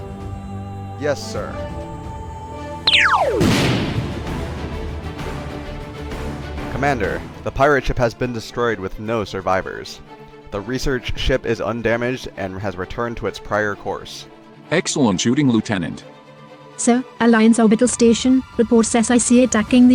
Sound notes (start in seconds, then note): 2.8 zap; 2.9 boom